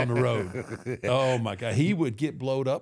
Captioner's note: Michael laughs